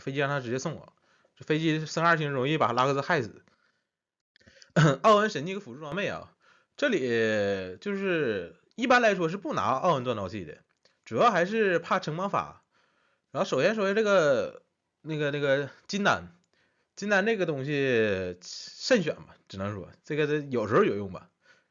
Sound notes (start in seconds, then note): 4.6 cough